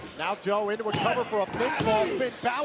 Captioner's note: crowd chatter